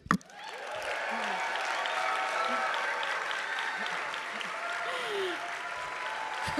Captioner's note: audience applauding; audience cheering